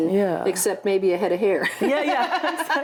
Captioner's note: laughs